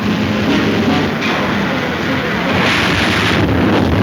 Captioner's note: crashing